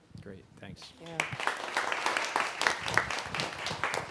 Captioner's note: applause